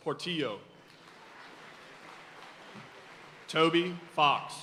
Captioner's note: audience cheering and applauding